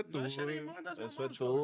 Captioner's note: speaking In Foreign Language